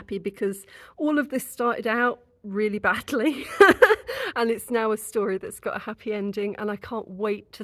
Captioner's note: laughing